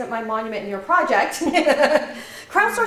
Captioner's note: laugh